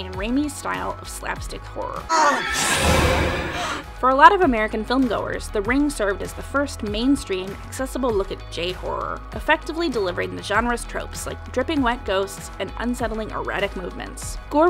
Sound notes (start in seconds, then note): 3.1 woman gasps in shock